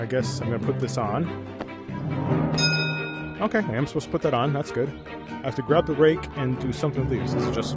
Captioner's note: ding